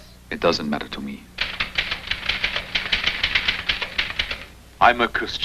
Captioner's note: typing